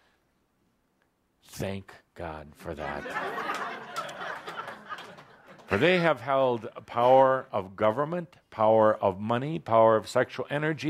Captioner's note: laughter